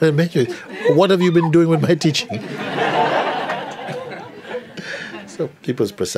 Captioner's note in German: Lachen